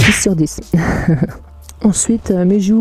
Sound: laugh of pleasure

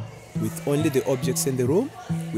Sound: participants talking

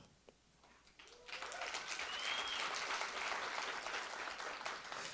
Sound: attendees applauding

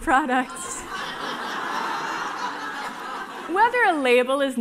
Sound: laughing

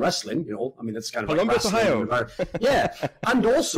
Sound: laughs

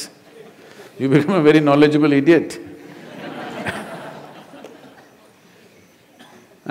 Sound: laughter

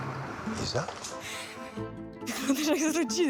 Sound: chuckles

